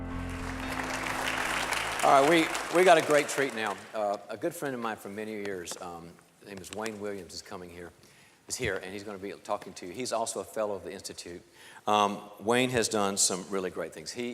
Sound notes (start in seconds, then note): 0.0 applause